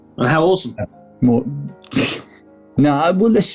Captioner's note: laughs